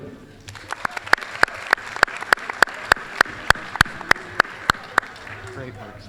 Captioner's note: applause